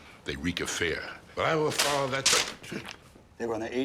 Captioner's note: none